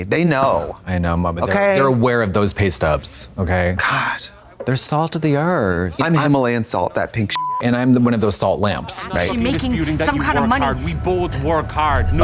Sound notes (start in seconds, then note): 7.3 beep